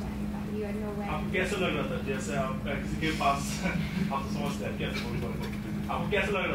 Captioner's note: translator speaks in foreign language